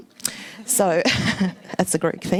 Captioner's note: laughs